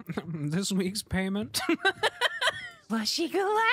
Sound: laughter

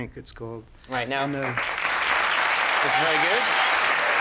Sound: audience cheering and applauding

